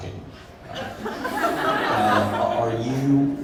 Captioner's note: crowd laughing